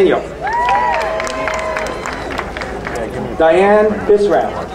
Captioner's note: crowd cheering